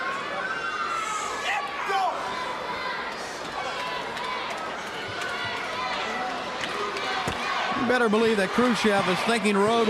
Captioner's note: crowd cheering